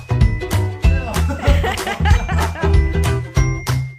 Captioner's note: laughing